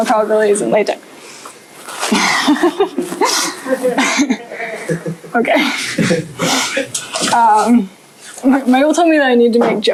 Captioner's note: laughter